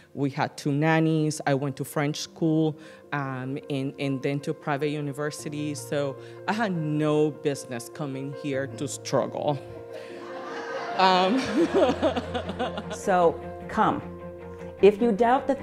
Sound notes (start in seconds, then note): 7.8 laughter